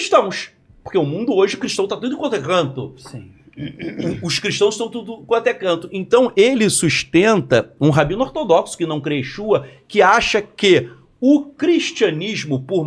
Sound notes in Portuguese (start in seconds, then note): 3.5 limpando a garganta